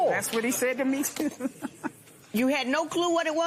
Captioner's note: laughing